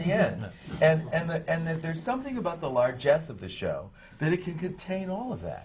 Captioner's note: laughter from the panel